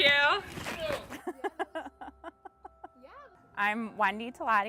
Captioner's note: laughing